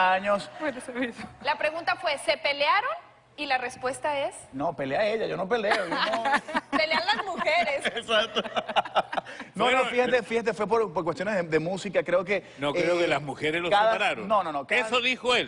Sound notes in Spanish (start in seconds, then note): 2.0 Hablan al unísono; 5.6 Risas